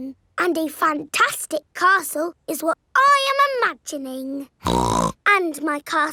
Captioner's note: snorts